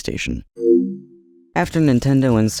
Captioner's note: PS2 woomp